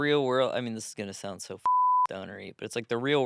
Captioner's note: beep